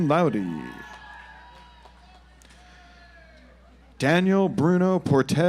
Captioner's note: audience applauds